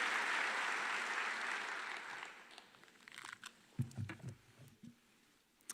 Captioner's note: applause